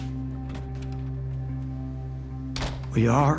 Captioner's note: door opens, closes